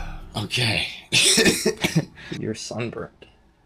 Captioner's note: cough